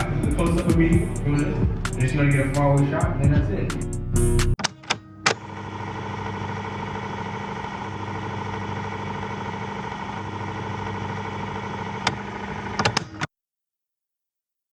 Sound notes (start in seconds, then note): 5.3 film sound rolling; 13.5 silence